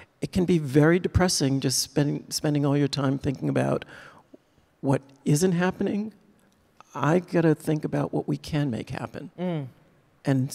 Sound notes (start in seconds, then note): none